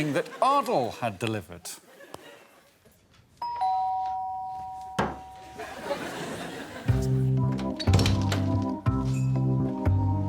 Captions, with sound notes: that Ardal had delivered. [doorbell dings] [whimsical music playing]